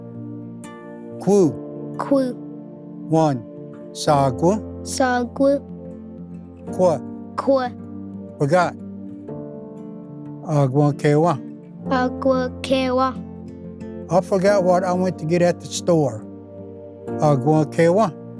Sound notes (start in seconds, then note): 3.9 repeats in Cherokee; 10.2 repeats in Cherokee; 16.7 Repeats first word in Cherokee